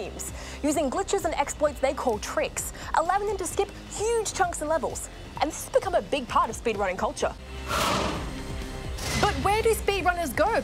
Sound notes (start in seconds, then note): none